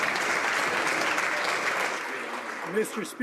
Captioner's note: some Applause